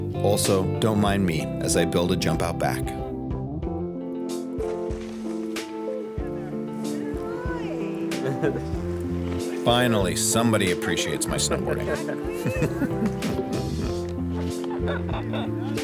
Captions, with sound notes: Also, don't mind me as I build a jump out back. (upbeat music) (people laughing) Finally, somebody appreciates my snowboarding. (people laughing)